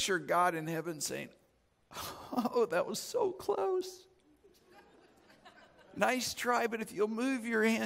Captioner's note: audience chuckles